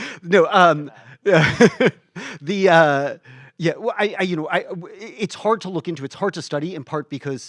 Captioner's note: laughs